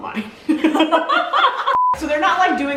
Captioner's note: both laughing; beeping